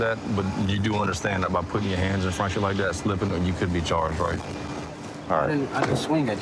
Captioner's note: none